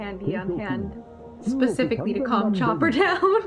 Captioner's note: laughs